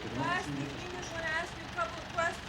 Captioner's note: foreign language